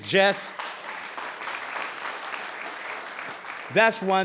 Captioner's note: applauding